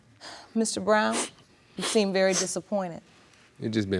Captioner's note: sighs